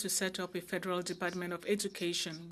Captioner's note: speaking French